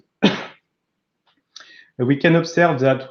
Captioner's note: sneezes